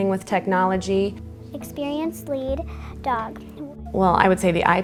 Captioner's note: child's voice reading